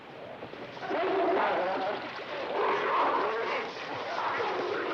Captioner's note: dogs snarling